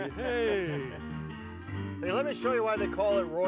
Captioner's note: laughing; upbeat music